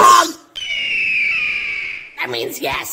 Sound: eagle call of anger

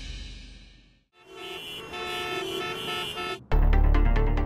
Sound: traffic noises

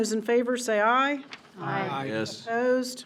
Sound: in Unison

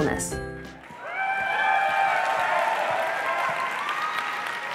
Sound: applause and cheering

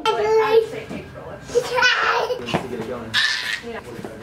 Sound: laughing

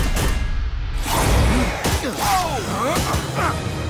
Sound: grunting

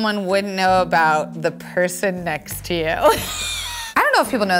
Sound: laughs

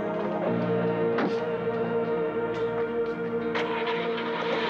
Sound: door clatters

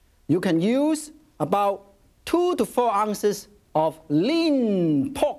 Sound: none

